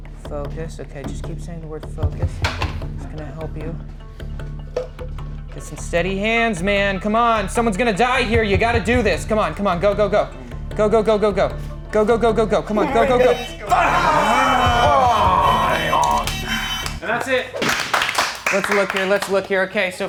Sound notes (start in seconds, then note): 12.8 hooter buzzing; 18.2 movers clapping